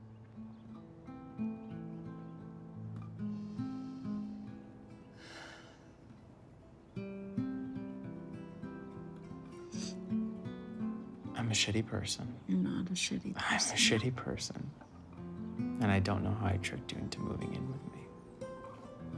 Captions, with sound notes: (gentle acoustic guitar music) (Sam breathes deeply) - I'm a shitty person. - You're not a shitty person. - I'm a shitty person. And I don't know how I tricked you into moving in with me.